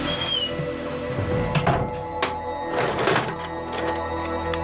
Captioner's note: door shuts